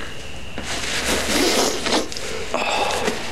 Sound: sniffling

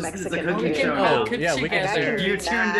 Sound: group chattering indistinctly

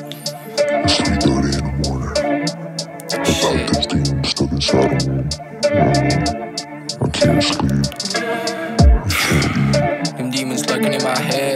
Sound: demonic Voices

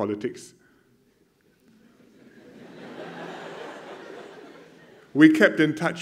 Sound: laughter

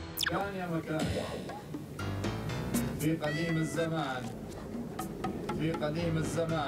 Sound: reading in Arabic

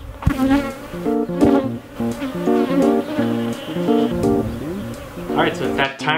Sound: bees buzzing

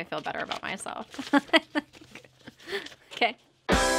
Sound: laughing

